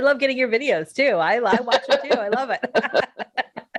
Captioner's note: laughing